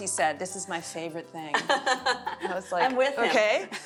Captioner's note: laughs